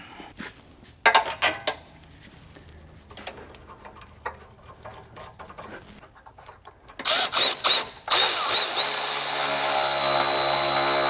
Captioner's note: drilling